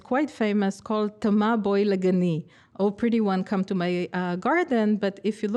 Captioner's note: speaking hebrew